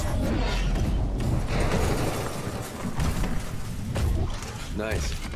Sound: none

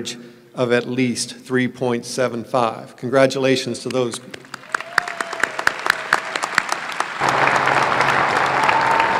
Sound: applause

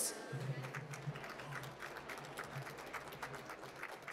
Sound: applause

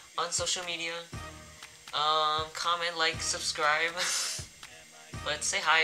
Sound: chuckles

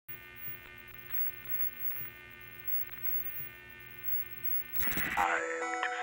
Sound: choppy signal humming

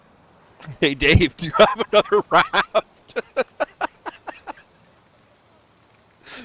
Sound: laughter

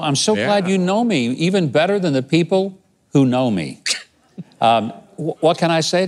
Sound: laughing

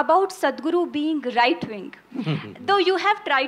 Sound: Sadhguru laughs

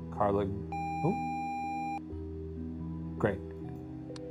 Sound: video game screen beeping

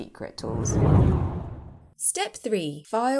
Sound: air swooshing

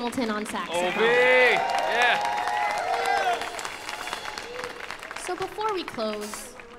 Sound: audience cheers

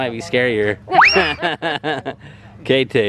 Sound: whistle; laughs

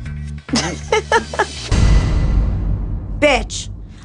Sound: laughs

